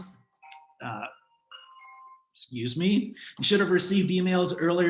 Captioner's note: phone ringing